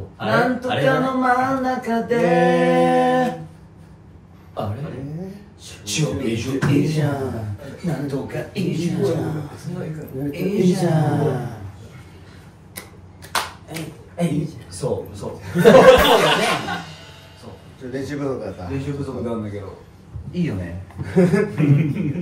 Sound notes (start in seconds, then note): 13.2 claps